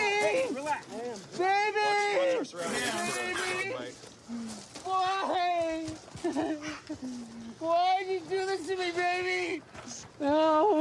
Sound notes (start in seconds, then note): 5.0 sobs